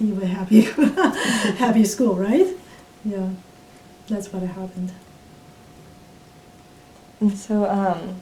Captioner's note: laughs; laughs